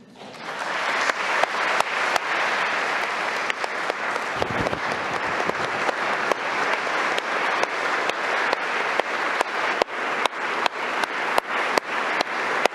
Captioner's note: applause